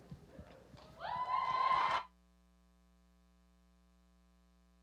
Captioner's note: cheering